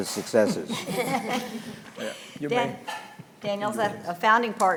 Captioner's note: panelist laughing